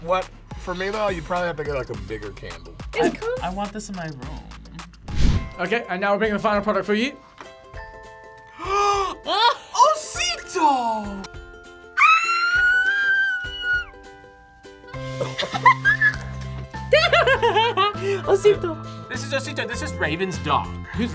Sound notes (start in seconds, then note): 8.7 gasps; 9.5 laughs; 11.9 screams; 14.3 laughs